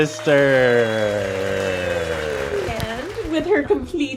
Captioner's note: audience applauds